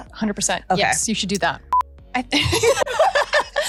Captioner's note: beeping sound; laughs